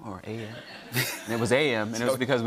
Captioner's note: laughter